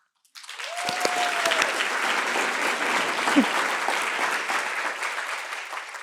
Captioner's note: cheers and applause